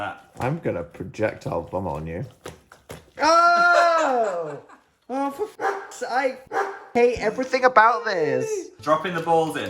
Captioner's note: bark